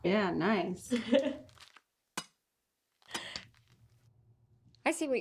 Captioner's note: Stephanie laughing